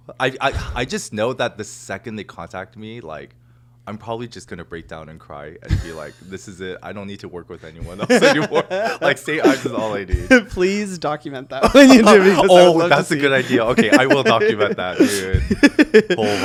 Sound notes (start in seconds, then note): 11.6 both laughing